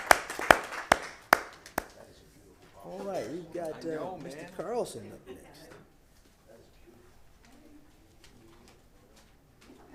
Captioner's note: applause